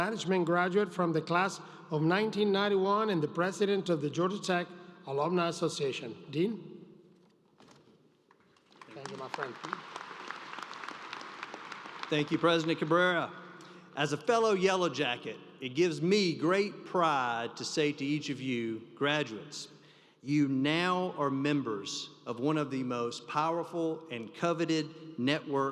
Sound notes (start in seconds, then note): 11.6 applause